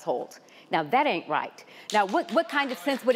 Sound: audience member applauding

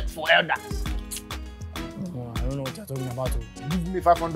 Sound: Sulaiman grumbles

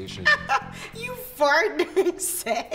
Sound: laughing

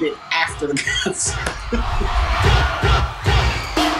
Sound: laughing

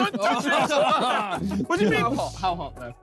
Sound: all laughing

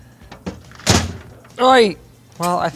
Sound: case clunks

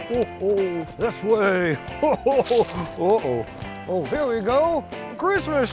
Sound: chuckles; squish

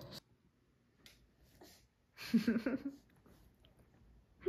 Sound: laughing

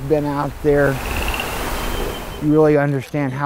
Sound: birds chirping; water flowing

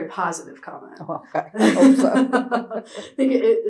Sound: laughter

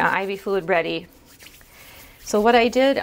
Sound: hand scrubbing

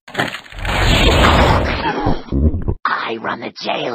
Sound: gulps

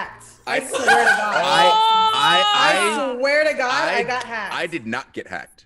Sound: laugh

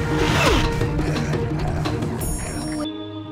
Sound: grunting

